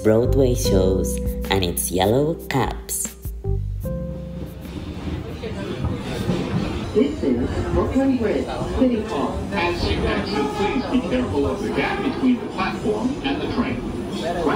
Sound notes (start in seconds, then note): 3.2 subway speakers